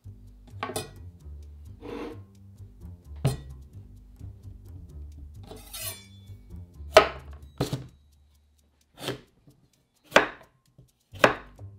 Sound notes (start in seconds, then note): 6.9 knife cutting